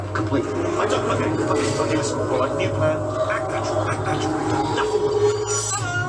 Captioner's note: panics